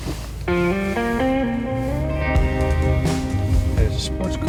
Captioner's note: car door thunks